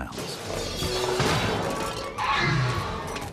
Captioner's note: screeches